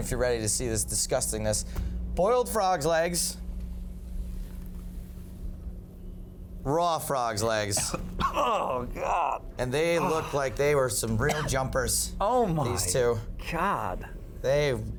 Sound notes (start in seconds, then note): 9.9 choking